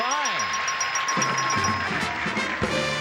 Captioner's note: audience cheers